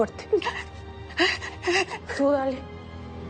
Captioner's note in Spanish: Sollozos